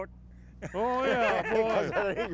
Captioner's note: laugh